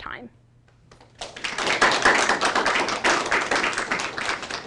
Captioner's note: applause